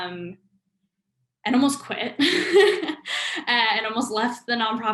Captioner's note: laughs